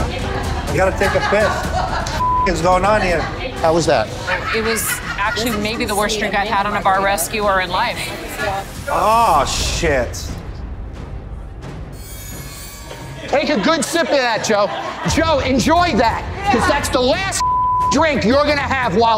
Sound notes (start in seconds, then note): 2.2 beeps; 17.4 beeps